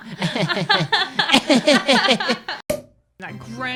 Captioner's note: both laughing sarcastically; sarcastic laughter